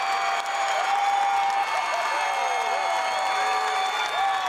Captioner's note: crowd cheers